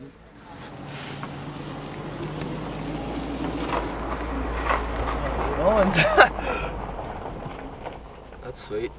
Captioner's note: vehicle noises